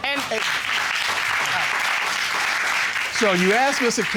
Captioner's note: applause